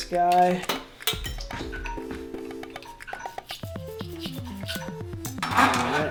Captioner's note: phone ringing